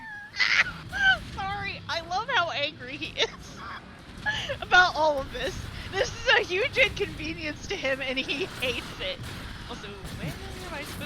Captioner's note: laughs